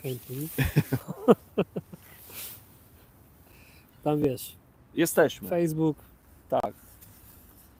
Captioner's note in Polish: śmiech